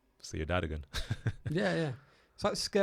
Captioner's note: chuckles